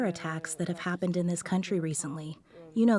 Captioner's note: speaking French